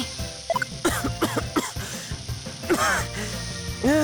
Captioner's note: more coughs